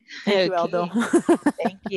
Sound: laughter

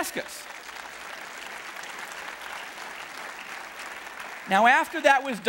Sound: audience clapping

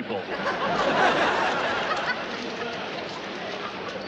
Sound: audience laughter

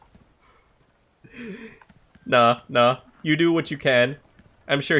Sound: snicker

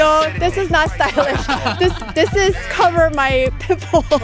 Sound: laughing

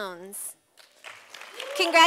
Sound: sound of applause from audience

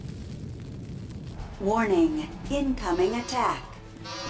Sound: computer voice

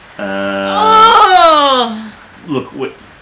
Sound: groans

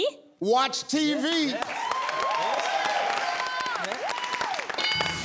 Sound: audience cheers

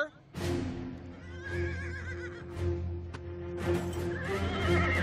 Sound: neighing

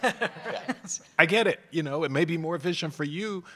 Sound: laugh

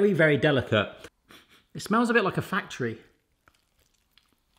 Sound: sniffs

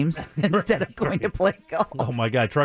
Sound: laughing

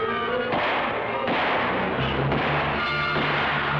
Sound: guns firing

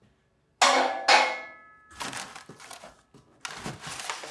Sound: tool clangs

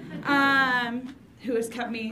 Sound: audience laughs

